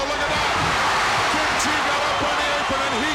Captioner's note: audience cheers